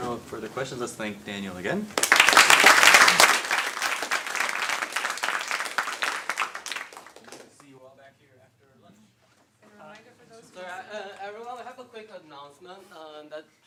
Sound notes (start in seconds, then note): 1.9 applause